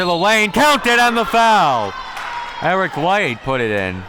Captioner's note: whistle blowing